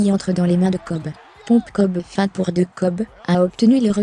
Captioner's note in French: acclamations